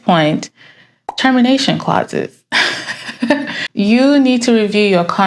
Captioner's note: laughs